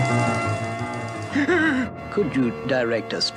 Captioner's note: Adam West Gasps